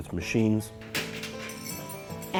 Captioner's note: tool clinks